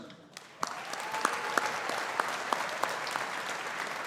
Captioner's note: audience applauding